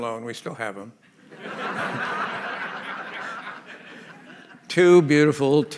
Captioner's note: laughter